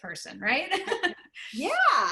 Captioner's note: laughter